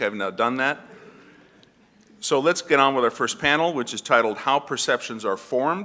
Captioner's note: cough